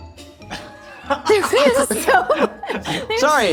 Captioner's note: all laughing